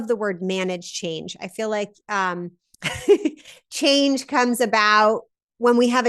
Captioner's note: laughs